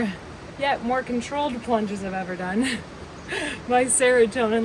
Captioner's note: laughs